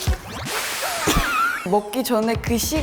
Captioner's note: hahaha